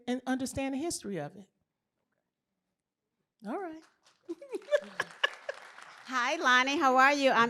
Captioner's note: applause; laughter